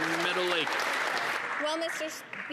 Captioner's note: some Applause